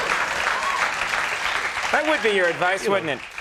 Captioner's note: applause